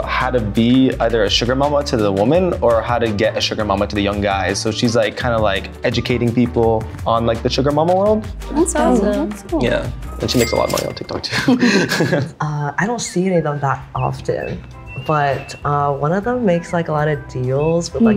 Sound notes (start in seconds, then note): 11.2 chuckles